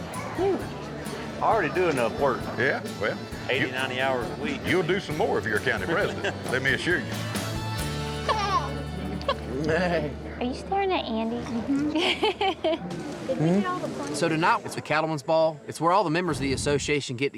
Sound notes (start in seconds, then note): 8.4 babbles; 11.7 giggles